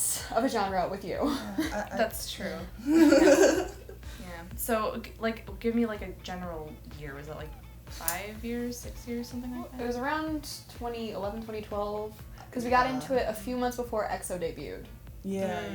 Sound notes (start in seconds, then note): 1.2 giggle